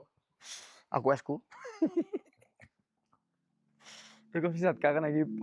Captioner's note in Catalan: esbufega